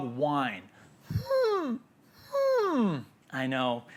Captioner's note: imitates whining dog